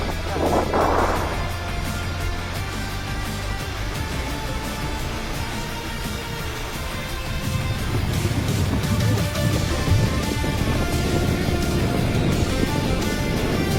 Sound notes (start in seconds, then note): 7.5 lava flowing; 9.5 swoosh, swoosh!